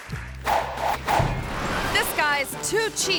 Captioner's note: logo whooshing